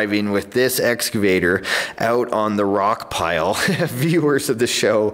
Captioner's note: laughs